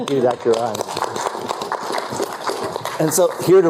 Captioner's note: applause